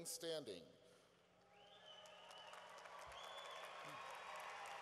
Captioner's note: cheering